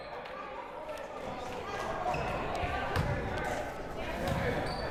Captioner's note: crowd murmuring